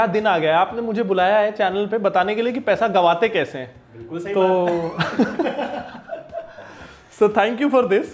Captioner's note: laughs